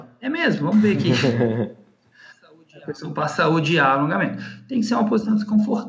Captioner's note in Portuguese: risos